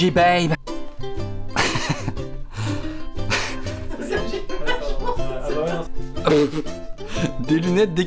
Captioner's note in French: rire